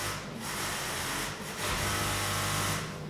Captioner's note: machine rattling